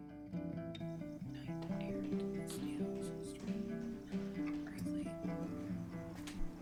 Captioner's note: muttered